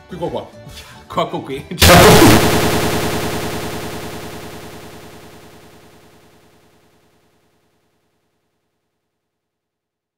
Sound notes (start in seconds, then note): 1.8 echo